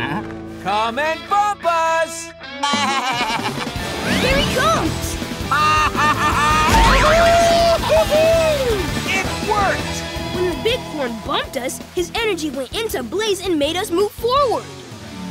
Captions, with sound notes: Come and bump us! Here he comes! [laughing] [cheering] It worked! When the Bighorn bumped us, his energy went into Blaze and made us move forward.